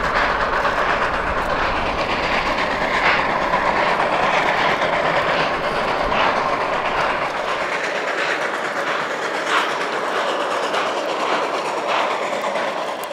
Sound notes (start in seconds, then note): 1.5 heavy plowing; 1.5 steady locomotive chugging